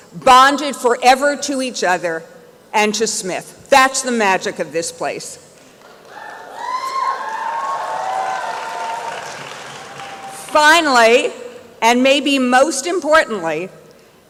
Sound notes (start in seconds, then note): 5.8 applause and cheering